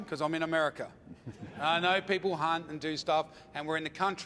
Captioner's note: audience laughs